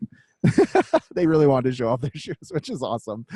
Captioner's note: laughs